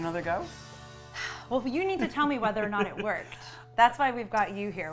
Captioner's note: sighs